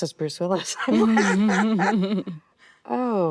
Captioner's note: actresses laughing